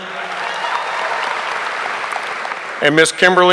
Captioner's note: audience applauding